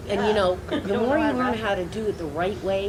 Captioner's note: audience laughing quietly